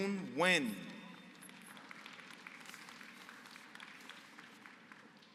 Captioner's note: applause